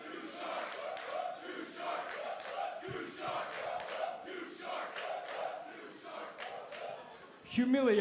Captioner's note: crowd cheering